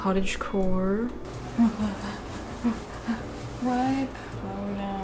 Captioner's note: breathing erratically